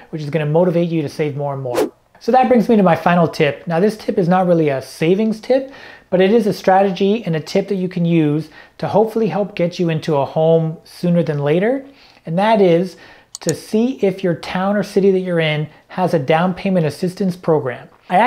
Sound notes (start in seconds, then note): 1.7 air whooshing